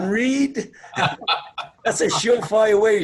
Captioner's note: laughs